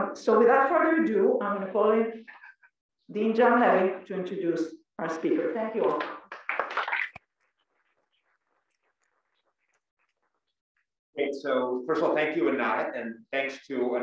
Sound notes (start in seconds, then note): 5.8 applause